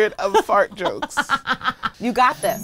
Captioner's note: laughs